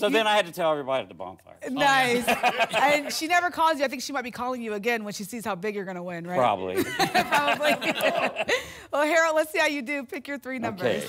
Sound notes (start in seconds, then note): 6.7 laughter